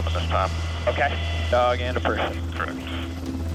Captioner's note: man Over Radio; person Over Radio